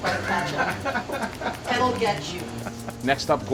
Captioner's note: laughs